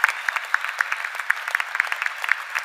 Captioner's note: cheers and applause